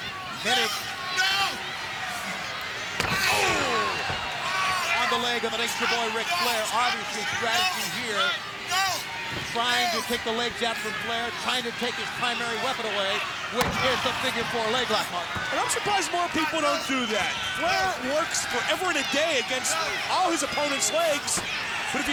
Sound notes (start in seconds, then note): 1.1 crowd cheering; 3.5 Ric screaming